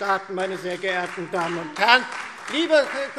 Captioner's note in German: Beifall DIE LINKE